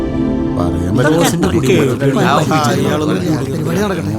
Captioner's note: indistinct chatters